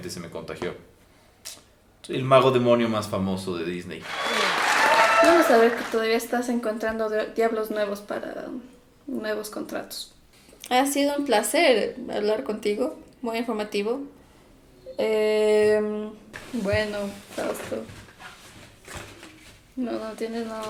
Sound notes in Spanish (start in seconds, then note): 4.0 Aplauso